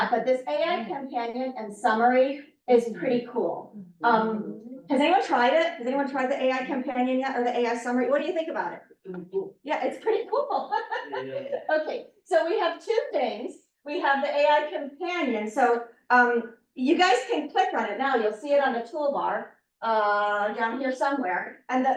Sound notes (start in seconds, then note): 10.5 laughs